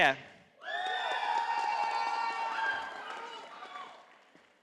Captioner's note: audience applauding